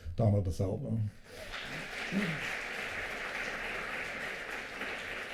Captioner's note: applause